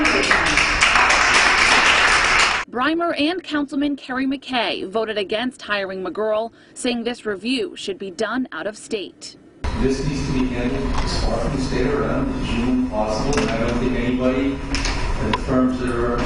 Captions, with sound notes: terminate him." *claps/cheers* BRIMER AND COUNCILMAN KERRY MCKAY... VOTED AGAINST HIRING MCGUIRL... SAYING THIS REVIEW... SHOULD BE DONE OUT OF STATE. KERRY MCKAY / NORTH KINGSTOWN TOWN COUNCILOR "This needs to be handled as far